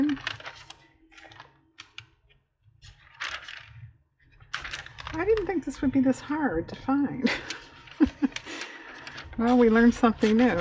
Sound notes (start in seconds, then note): 7.9 laughs